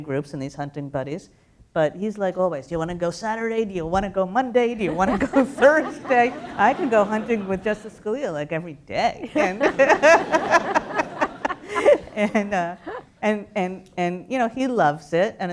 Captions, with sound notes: groups and these hunting buddies. But he's like always, do you want to go Saturday? Do you want to go Monday? Do you want to go Thursday? [LAUGHTER] I can go hunting with Justice Scalia, like, every day. [LAUGH] [LAUGHTER] And you know, he loves it.